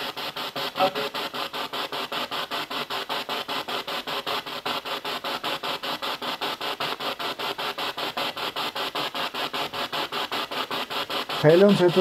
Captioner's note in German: Noise of the spiritbox in the background